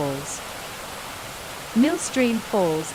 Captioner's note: waterfall sound